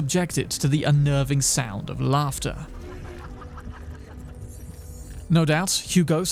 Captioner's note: laughter